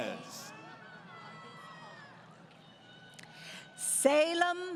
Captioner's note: crowd Cheering